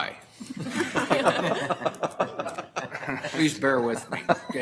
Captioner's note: audience laughter